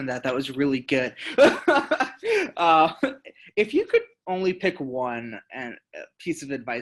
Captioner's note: laughing